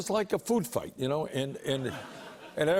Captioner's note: light laughter